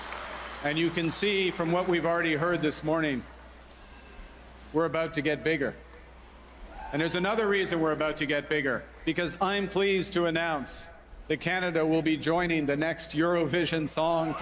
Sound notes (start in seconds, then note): 0.0 cheers and Applause